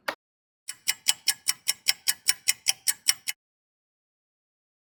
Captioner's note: sound of a ticking clock